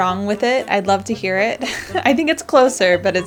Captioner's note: laughs nervously